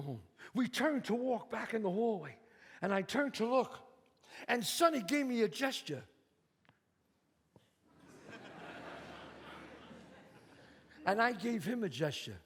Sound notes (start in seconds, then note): 8.0 audience laughs